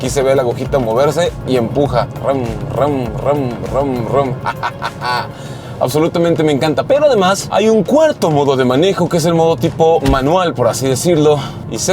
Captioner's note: laughter